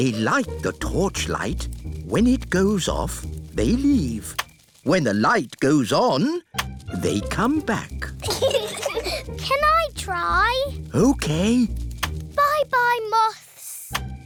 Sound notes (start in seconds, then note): 8.2 peppa and george giggle